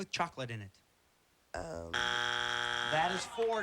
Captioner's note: buzzer